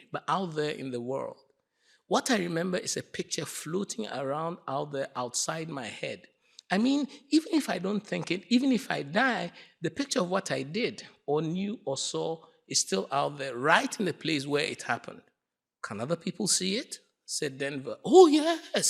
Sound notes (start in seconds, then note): none